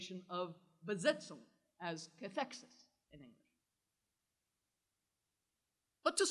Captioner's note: german